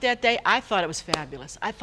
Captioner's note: hands clap